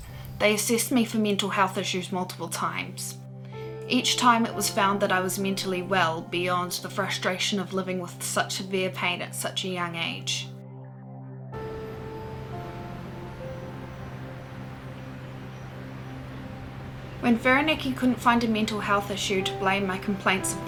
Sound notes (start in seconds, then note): 10.2 piano music plays; 11.6 sounds of waves crashing